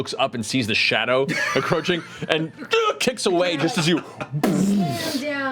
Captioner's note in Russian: звук удара